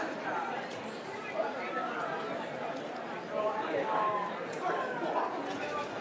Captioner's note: background cheering and chattering